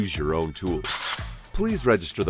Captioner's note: drill whirring